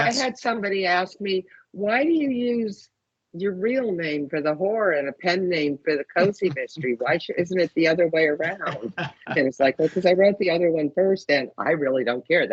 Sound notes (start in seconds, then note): 8.5 laughing